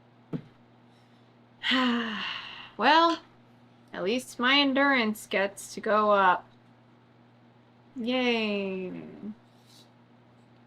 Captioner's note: sighs